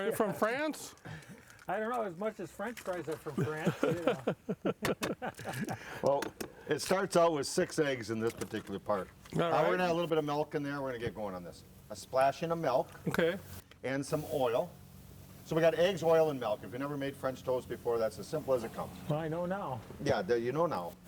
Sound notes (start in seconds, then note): 0.0 chuckles; 3.3 chuckles